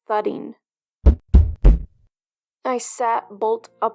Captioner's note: knock knock Knock